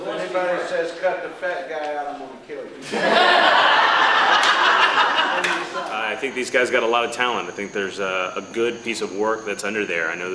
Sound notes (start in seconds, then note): 2.8 laughter